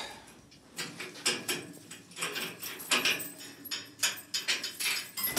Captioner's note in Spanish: ruido con las rejas